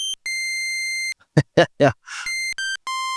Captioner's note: laughs